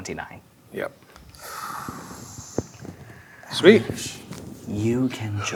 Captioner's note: exhales